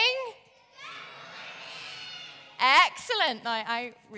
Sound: audience shouting

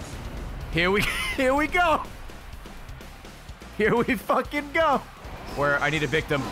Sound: laughs

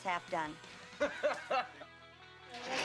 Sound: la ughs

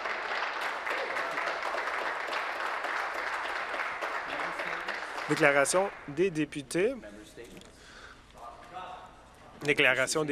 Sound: some Applause

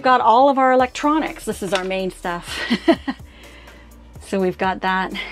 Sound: laughs

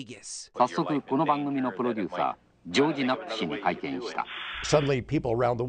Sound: japanese narration

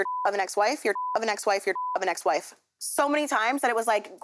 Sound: beep

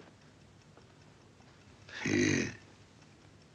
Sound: grunting

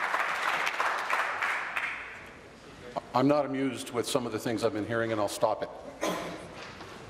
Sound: applause

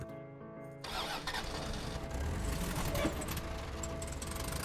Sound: starts car

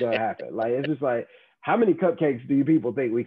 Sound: laugh

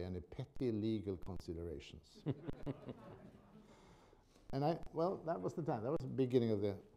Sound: laughter

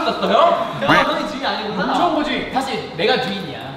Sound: everyone refuting

